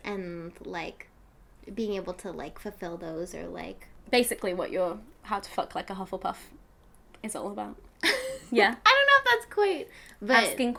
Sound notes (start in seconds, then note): 8.0 laughing